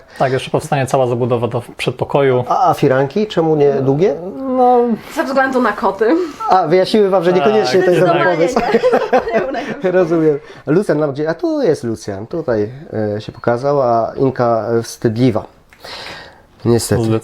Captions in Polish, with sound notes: – Tak, jeszcze powstanie cała zabudowa w przedpokoju. – A firanki? Czemu nie długie? – Ze względu na koty. – A, wyjaśniły Wam, że niekoniecznie to jest dobry pomysł. – Zdecydowanie nie. [śmiech] – Rozumiem. Lucjan gdzie? A tu jest Lucjan, tutaj się pokazał. A Inka wstydliwa niestety..